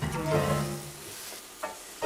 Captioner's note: bong